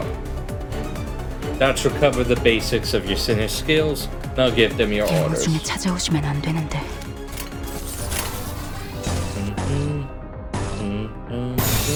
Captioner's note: humming